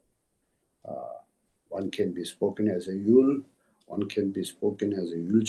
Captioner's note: tibetan